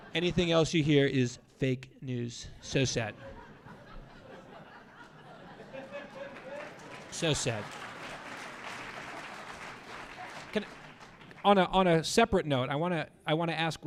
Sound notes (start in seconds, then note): 4.9 audience laughing; 5.5 audience applause